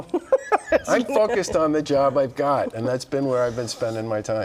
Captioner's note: laughter